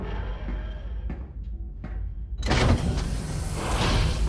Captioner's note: footsteps approach, door opens